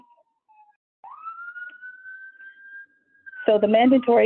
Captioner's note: siren wailing